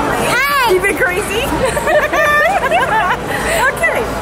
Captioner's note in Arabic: كلاهما يضحك